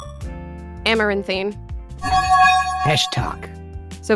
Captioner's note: bell chimes